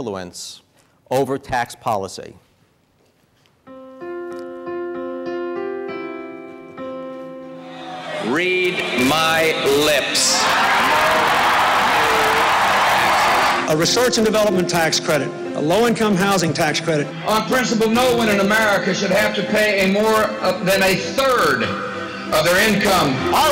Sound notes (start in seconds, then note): 3.6 soft piano music; 10.6 crowd screaming